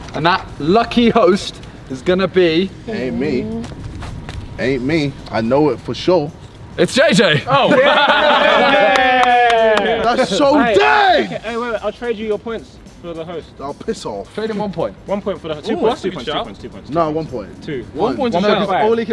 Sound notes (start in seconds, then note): 7.4 men cheering